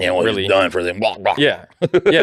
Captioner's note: laughter